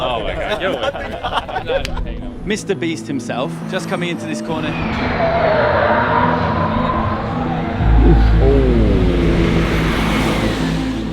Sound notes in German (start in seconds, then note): 4.4 quietschende Reifen